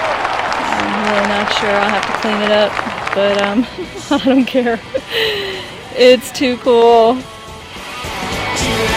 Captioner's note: laughs